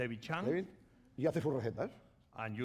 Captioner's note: speaking spanish